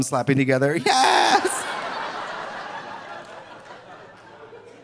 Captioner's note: audience laughing